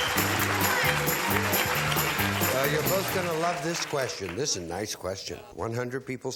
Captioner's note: applause